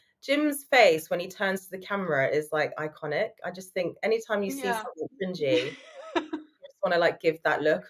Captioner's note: laughing